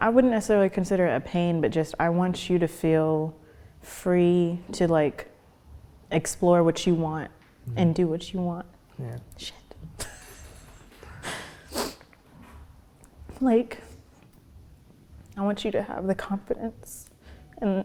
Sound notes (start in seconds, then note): 10.0 chuckles; 11.2 sniffs